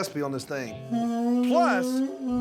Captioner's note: horn sound